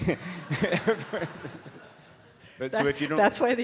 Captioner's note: audience laughs